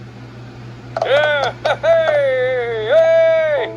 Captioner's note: Martin cheers